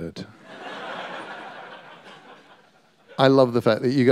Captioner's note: laughter